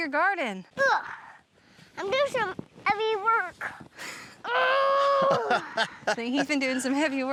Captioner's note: grunting